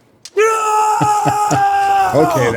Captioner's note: screaming